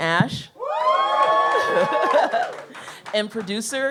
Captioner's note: audience cheers